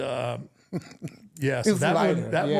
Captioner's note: R-Truth laughing